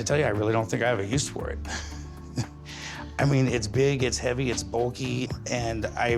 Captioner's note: chuckles